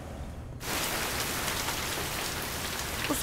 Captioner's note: Raindrops pattering